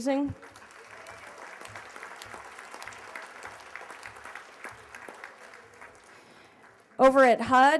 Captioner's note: applause